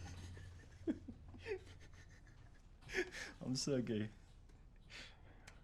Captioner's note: laughing; laughs